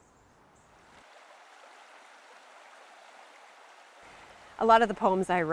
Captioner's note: creek water running